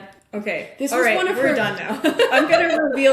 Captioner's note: laughing